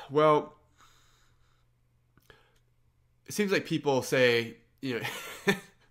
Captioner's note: sighs; laughs